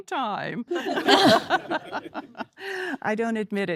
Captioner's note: laughter